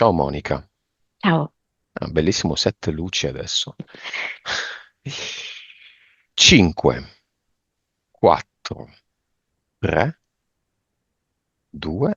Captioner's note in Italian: sospiri